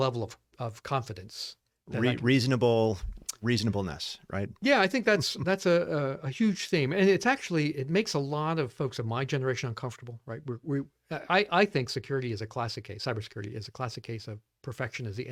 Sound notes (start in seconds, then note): 5.0 laughs